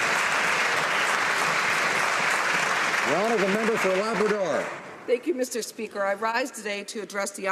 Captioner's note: applause